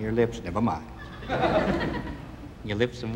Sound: audience laughing

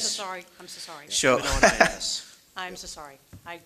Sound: murmurs; laughs

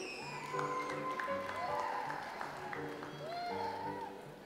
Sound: audience applauds

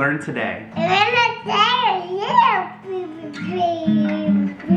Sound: happy mumbles

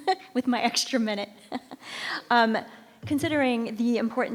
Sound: chuckles

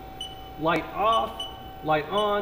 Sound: beeping

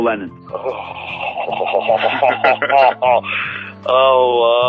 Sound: laughs

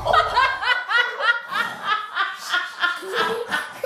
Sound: pain sound; laughing

